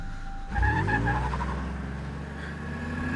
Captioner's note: car accelerating